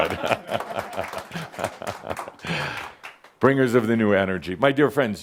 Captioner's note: some applause and chuckles